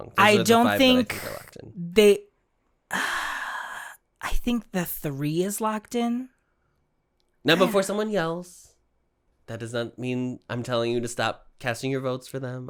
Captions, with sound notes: I don't think… They-- [sigh] I think the three is locked in. Now, before someone yells… That does not mean I'm telling you to stop casting your votes for them.